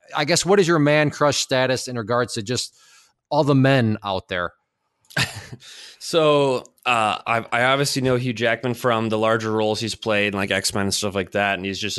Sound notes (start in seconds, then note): 5.1 laughs